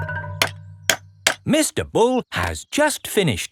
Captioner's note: clanking